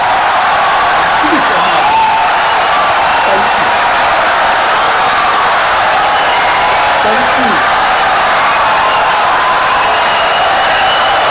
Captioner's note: wild applause and cheering for 17 seconds